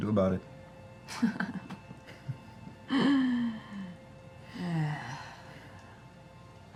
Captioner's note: laughs; sighs